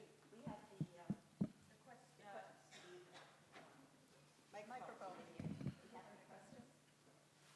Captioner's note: mic tapping